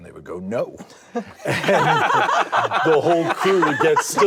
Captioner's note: all laugh